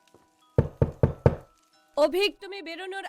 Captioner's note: knocking